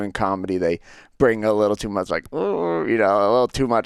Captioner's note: mimics squeamishness